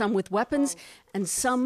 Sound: speaking foreign language

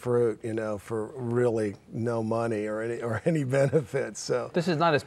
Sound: laughing

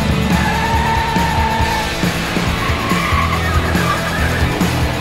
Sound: tires screeching

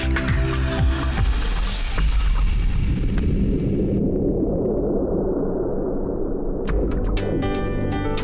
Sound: thunderous earthquake sound

